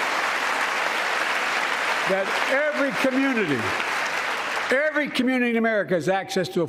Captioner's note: applause